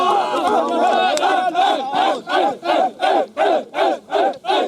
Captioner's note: chanting